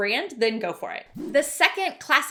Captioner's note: swishing